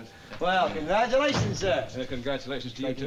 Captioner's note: door thuds